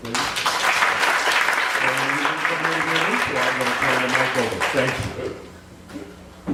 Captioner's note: applause